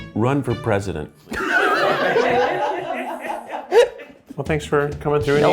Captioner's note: all laughing